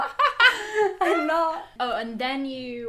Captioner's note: laughs